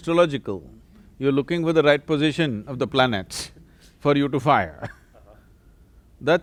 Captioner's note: laughs